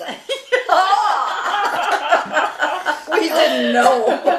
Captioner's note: laughing